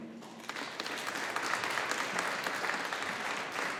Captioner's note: audience applauding